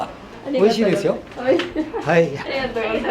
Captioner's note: laughs